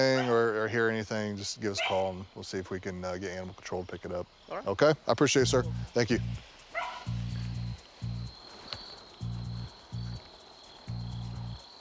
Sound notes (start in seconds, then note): 7.0 crickets chirping